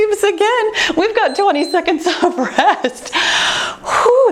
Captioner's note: timer beeps